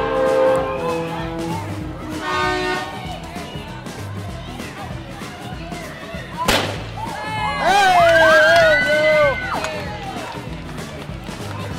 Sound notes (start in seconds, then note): 4.8 firework bang for confetti, crowd cheers and applauds